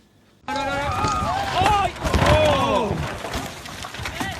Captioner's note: crashing sounds